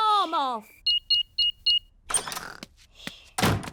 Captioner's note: beeping